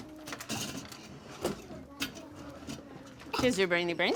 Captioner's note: chairs shuffling